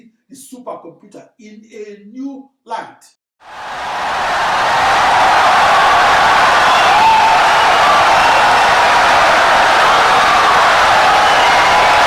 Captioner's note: wild applause and cheering for 17 seconds